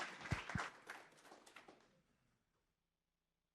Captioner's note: applause